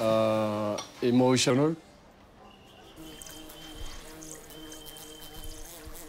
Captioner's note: car horns honking